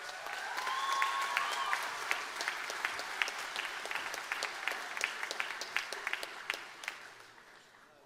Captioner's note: applause